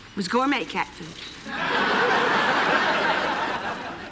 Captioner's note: laughter